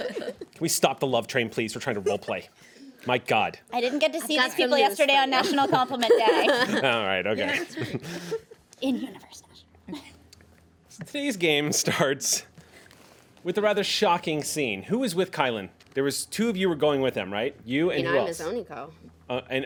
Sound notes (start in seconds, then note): 8.7 faintly speaking